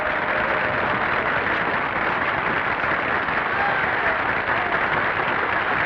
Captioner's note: audience applauding; audience cheering